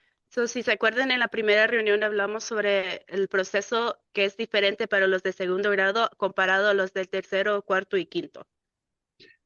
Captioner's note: speaking in Spanish